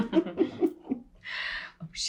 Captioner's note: Charlotte and Summer chuckle